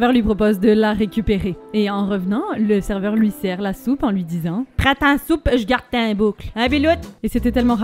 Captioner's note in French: accent chti